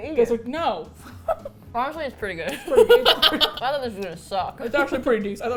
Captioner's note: laughs